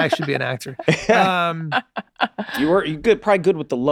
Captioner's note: Glenn and Meg laugh